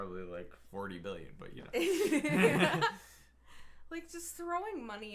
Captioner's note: both laughing